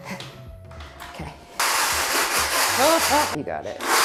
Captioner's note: machine whirring and thudding